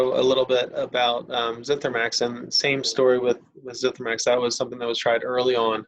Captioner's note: murmurs